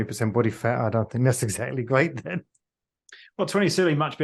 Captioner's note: laughs